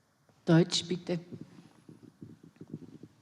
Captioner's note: in German